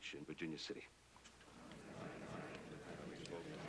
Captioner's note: surprised murmuring